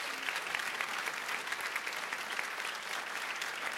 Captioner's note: applause